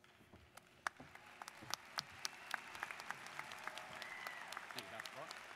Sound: students applauding

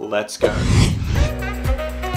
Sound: video transition whooshing; bright upbeat music

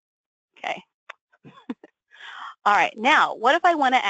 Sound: laughs

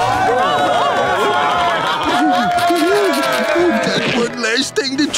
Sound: applause

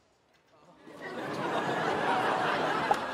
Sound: audience laughing

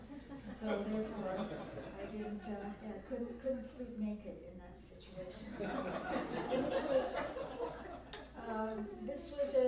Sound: laughter; laughter

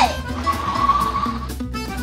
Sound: car wheels accelerating

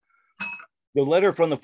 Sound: bell rings

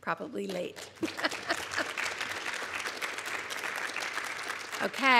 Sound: audience applauds

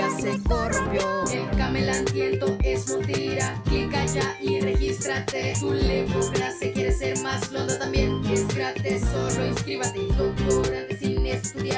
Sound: en voz Robótica

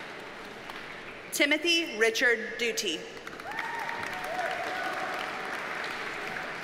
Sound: audience cheers and applauds

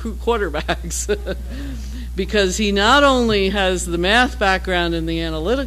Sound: laugh

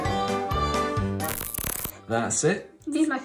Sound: static

